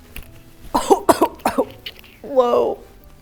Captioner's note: coughing